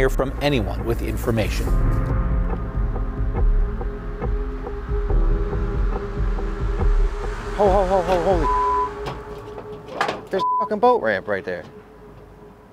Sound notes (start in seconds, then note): 3.5 pulsating music; 8.4 beep; 10.4 beep